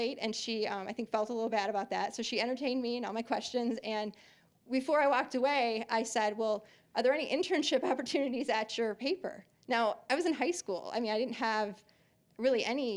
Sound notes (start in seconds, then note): none